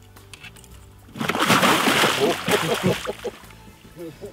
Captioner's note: splash